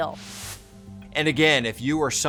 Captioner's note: transition whooshes